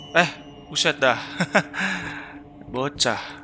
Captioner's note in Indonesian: ketawa